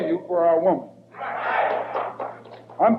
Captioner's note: audience applauding